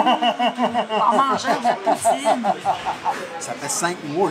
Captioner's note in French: rire